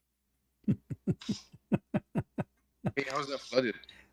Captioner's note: Ketawa